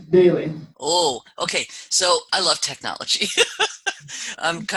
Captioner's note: laugh